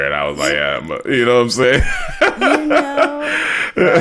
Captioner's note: laughs